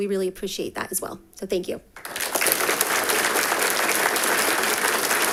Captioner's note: audience applauding